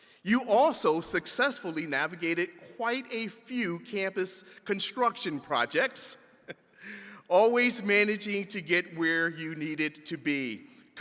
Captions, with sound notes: You also successfully navigated quite a few campus construction projects, (chuckles) always managing to get where you needed to be.